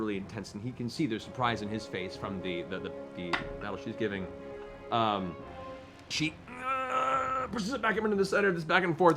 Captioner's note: groans